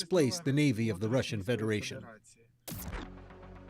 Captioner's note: speaking alternate language